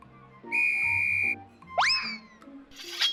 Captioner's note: tweet